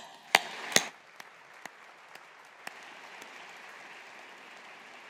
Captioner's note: audience applauding